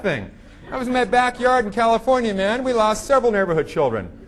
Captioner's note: audience laughing